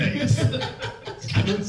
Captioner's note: cast laugh